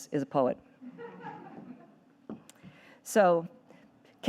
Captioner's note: audience laughing